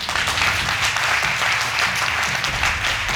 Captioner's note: audience applauding